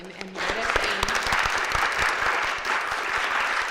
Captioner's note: applause